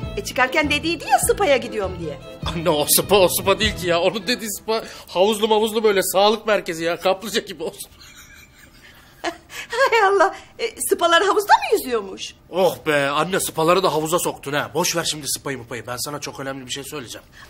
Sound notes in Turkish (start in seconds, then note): 7.8 gülme sesi̇